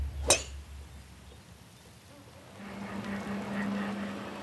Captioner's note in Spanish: sonido al golpear la bola